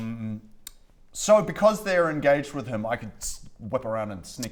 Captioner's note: tssst